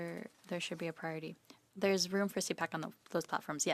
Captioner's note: speaking in French